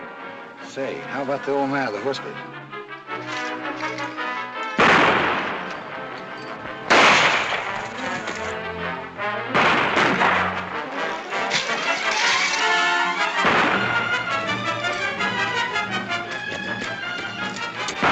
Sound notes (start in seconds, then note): 4.7 gunshots; 9.4 gunshots; 11.5 tense music; 17.8 gunshots - tense music